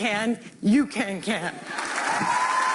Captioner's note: applause